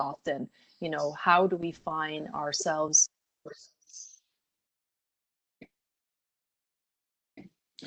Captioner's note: audio drops